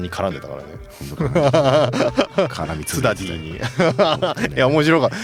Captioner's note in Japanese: 笑い